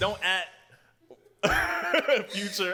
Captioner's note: laughs